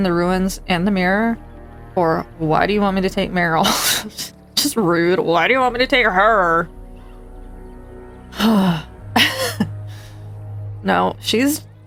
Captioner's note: laughs